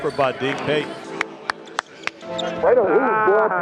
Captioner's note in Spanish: un compañero de equipo aplaude